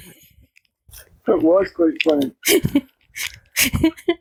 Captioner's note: laughter; laughter